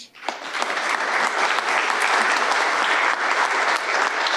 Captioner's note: audience applauding